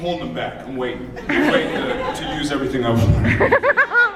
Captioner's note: laughing; laughs